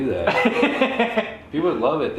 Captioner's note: laugh